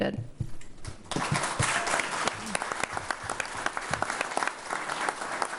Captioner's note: attendees applauding